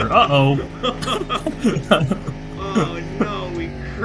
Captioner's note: men chortle